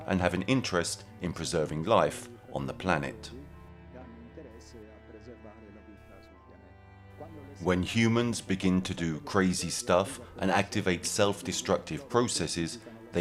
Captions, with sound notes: and have an interest in preserving life on the planet. (speaking in foreign language) (gentle music continues) When humans begin to do crazy stuff and activate self-destructive processes,